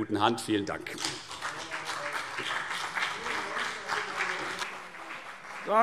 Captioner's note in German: Beifall CDU und BÜNDNIS 90/DIE GRÜNEN